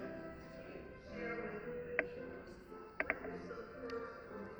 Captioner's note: chatter